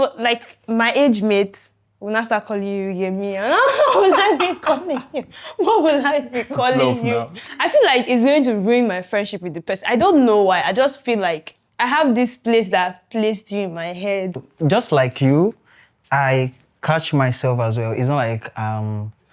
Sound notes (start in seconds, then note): 3.4 laughs